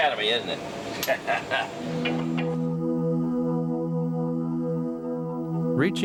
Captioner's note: crew member laughing